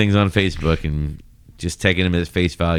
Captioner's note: uh